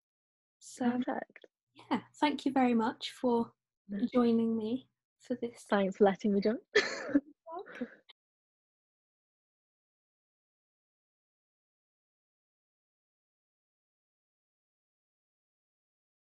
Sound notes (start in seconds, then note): 10.7 laughs